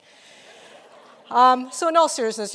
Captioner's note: audience laughing